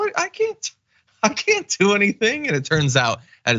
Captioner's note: laugh